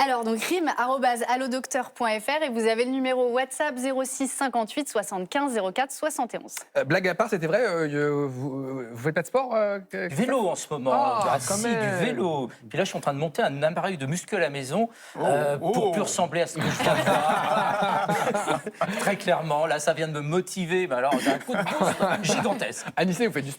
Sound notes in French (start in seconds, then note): 16.6 rires; 21.0 rires